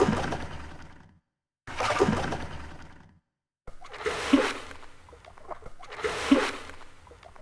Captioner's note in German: Ruderbootgeräusch